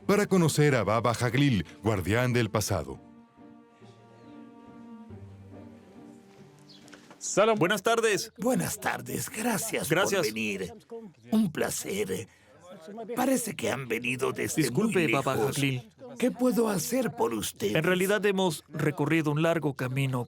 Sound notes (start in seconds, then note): 7.1 Arabic spoken audio